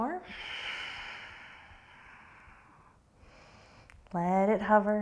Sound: deep breathing

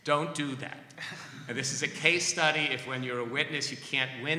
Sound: laughter

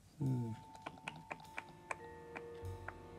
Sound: tuts

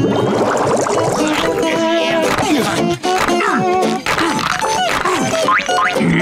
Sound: grunting

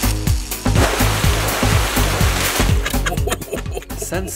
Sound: water spurting; laughing

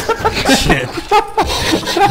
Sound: laughing

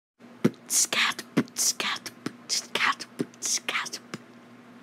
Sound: beatboxing

